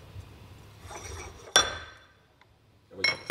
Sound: metal sound

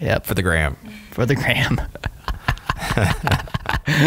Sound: chuckles

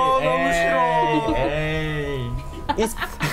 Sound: exclaims in foreign language; laughs

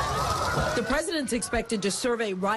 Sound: sirens

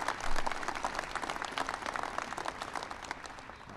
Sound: applause

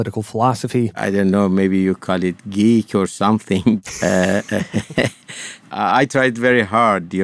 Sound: laughter

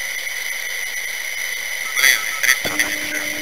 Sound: inner marker sound

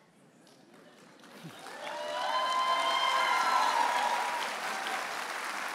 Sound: audience applauding and cheering

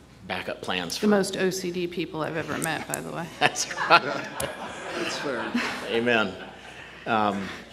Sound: laughter

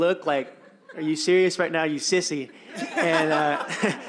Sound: laughter

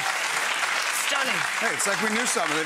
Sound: audience applauding

